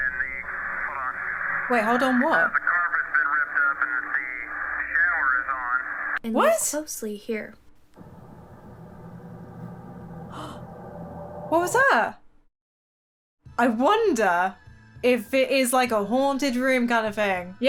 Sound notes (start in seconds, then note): 0.0 radio Voice; 2.3 radio Voice; 10.2 gasps